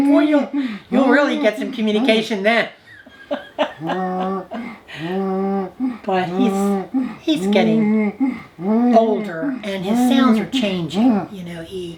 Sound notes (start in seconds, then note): 2.9 grandma laughing; 3.5 humming